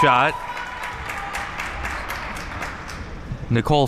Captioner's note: spectators applauding